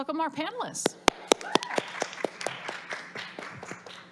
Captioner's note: applause